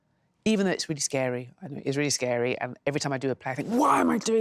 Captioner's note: none